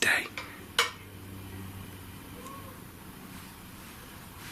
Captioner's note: light tap